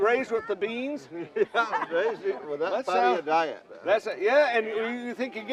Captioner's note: laughing